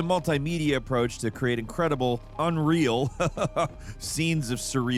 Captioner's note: laughs